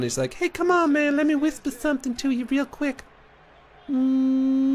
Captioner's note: high voice